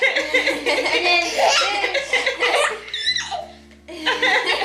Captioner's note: everyone laughs